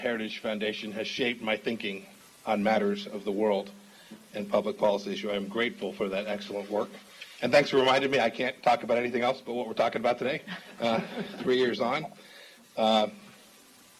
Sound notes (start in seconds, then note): 10.4 laughter